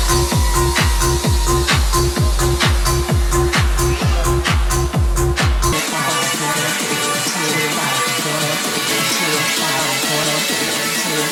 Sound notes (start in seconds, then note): 4.3 crowd cheering